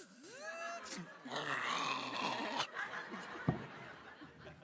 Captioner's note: guttural sounds